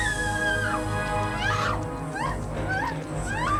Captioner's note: screaming